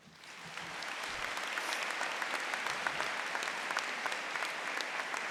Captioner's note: applause